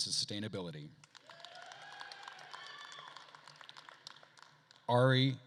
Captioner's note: attendees cheering and applauding